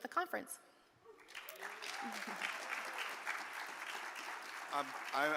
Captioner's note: audience applaud